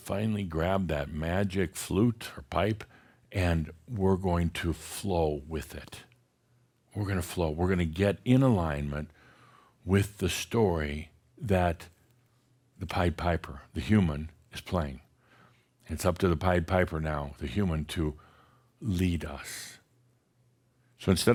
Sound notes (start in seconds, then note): none